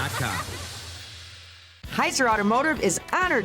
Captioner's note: children laughing